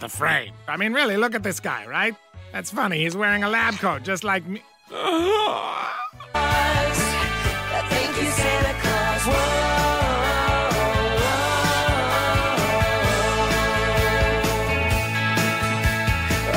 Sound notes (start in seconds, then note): 4.8 gasps